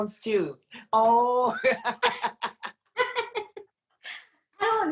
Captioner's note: laughs